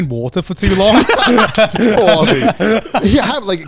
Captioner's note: laughing, clapping